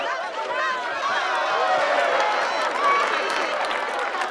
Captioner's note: cheering